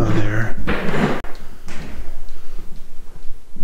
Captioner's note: floor creaks